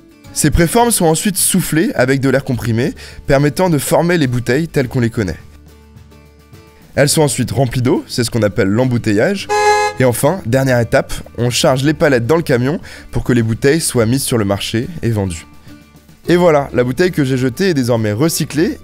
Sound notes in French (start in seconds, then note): 9.4 bruit de klaxon